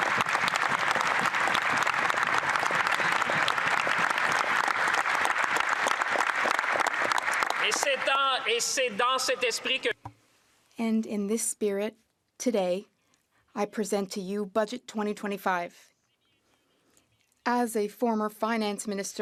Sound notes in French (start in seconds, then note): 0.0 voix de l'interprète; 4.5 applaudissements